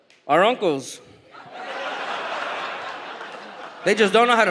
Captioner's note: audience laughs